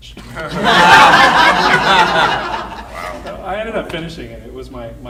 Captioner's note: audience laughing